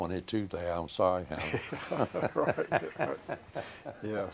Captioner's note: both laugh